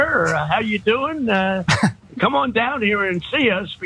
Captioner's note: laugh